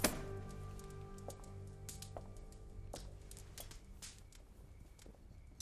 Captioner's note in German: Schritte, die sich zurückziehen